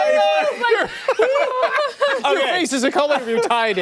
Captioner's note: laughter